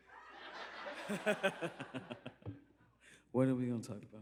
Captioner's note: laughter